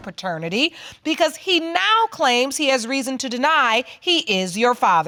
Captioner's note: none